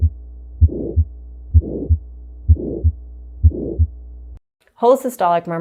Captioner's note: heart beating